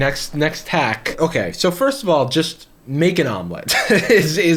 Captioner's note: laughs